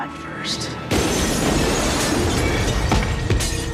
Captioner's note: kaca pecah, badan berdebar